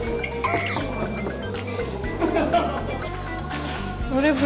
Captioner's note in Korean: 소심하게 똑똑똑